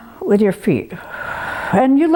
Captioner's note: exhales sharply